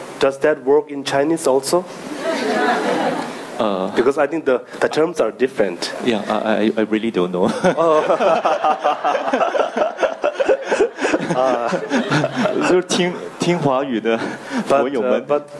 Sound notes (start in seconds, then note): 2.1 audience laughing; 7.5 laughing